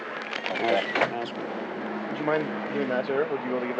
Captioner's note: door closing